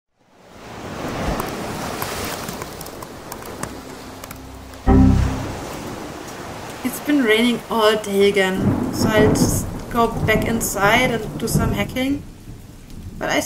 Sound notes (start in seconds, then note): 7.1 ocean waves; 8.1 heavy rain